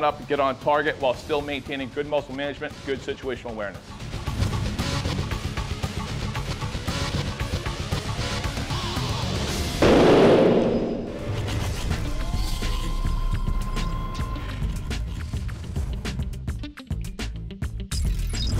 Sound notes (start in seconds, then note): 9.8 gunshot; 13.5 action music